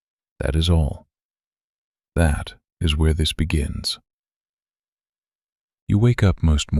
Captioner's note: pause